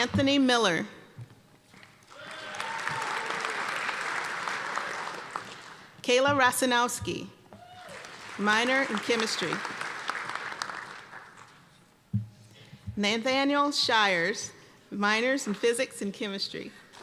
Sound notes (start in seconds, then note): 2.0 applause and cheering; 9.5 applause